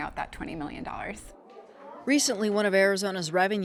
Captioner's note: classroom chattering